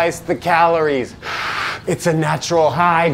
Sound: heavy inhale

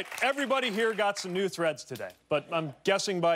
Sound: cheers and applause

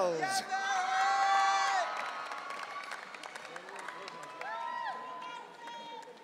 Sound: audience cheering

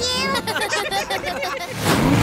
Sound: giggling

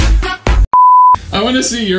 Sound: beep

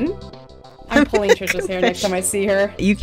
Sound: laughs

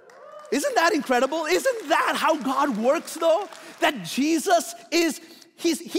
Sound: applauding

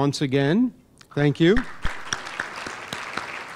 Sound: applause

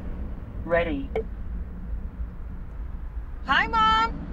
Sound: computer voice

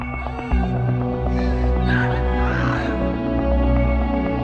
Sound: Anne screams

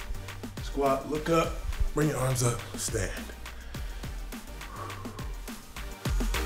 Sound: exhales; strong music

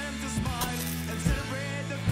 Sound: sizzle

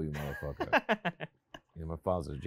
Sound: host laughs

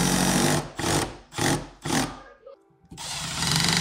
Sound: drill whirring

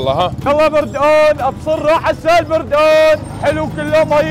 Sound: shouting

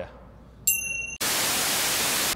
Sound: bell dinging; TV static

